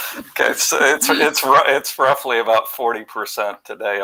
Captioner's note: laughter